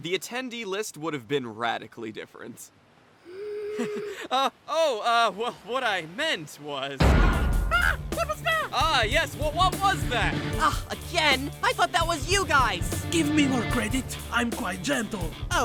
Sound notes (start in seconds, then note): 3.3 oj laughs; 7.0 loud bang